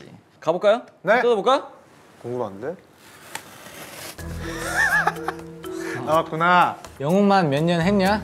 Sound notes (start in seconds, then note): 4.5 laughs